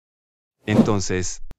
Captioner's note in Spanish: FX - Whoosh - 03